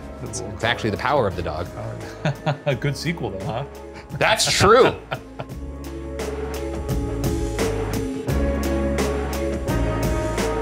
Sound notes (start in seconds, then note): 4.0 laughing; 4.0 laughs; 6.3 suspenseful music playing